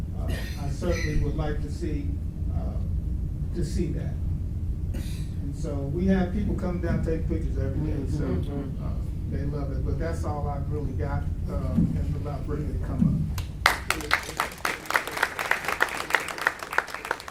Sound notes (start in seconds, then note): 13.3 audience applauds